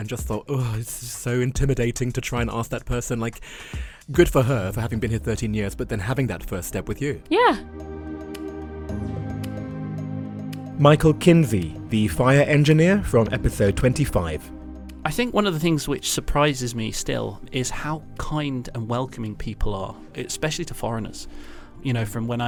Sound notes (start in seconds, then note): 8.9 voiceover